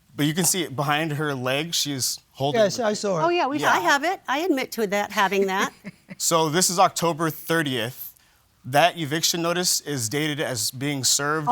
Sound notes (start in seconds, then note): 5.5 laughter